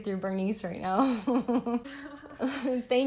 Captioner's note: laughing